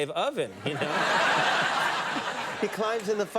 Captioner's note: audience laughing